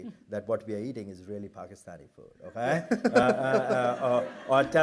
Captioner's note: laughter